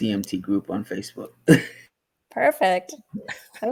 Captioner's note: laughs